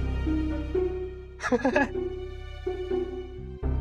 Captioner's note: chuckling